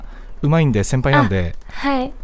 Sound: laugh

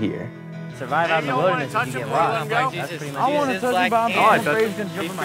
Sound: kids chatting

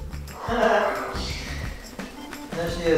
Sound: chuckles

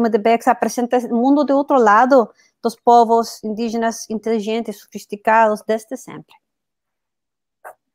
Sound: speaks portuguese

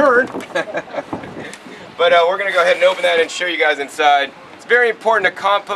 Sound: laughs

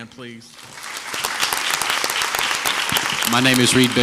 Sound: crowd applauds

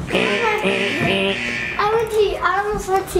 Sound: car alarm

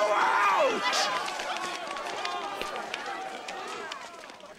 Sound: crowd clamoring

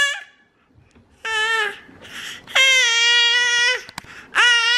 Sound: baby screams

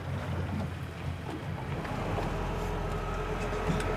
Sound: water lapping; reel cranking; boat enging idling

